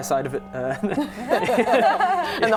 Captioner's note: laughing